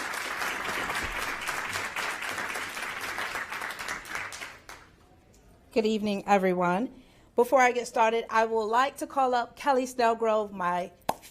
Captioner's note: applause